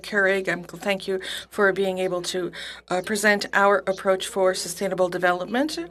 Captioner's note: speaking French